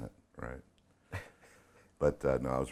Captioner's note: chuckling